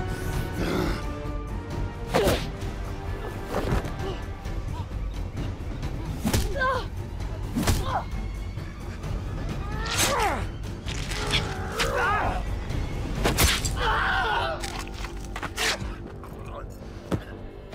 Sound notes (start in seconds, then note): 11.9 screaming in pain; 12.9 dramatic music playing